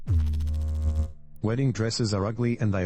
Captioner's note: electrical noise